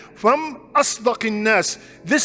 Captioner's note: Arabic